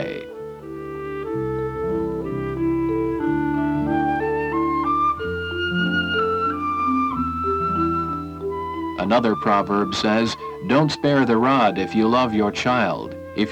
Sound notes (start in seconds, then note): 7.8 city traffic